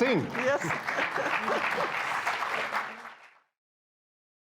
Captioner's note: crowd applauds